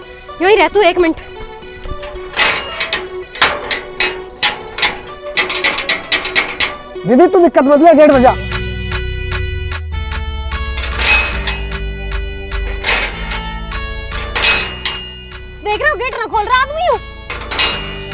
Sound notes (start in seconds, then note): 1.0 banging on the gate; 10.8 knocking on the gate